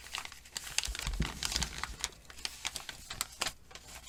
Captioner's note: rustling